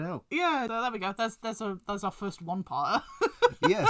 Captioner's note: laughs